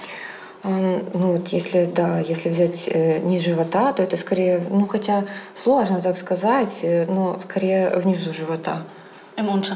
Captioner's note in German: Klientin spricht Russisch